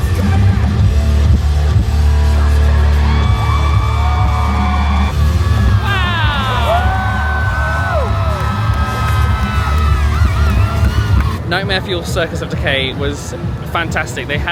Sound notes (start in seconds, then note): 0.1 energetic music; 3.6 guests cheering; 7.0 energetic music; 7.0 guests cheering